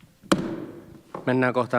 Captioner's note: Nuijan kopautus